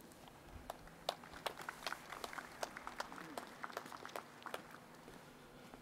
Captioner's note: audience applauding